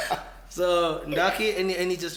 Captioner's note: everybody laughs